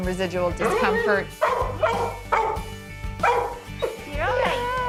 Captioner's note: dog barking